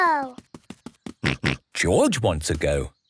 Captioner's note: snorts